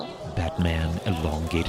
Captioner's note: crowds cheering and cameras clicking